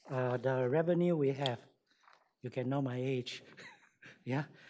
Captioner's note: chuckles